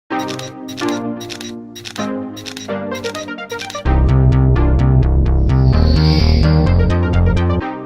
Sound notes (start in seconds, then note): 0.1 upbeat music; 1.2 camera clicks